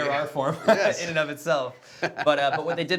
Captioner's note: laughing